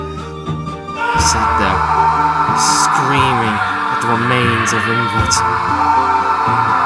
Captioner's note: screaming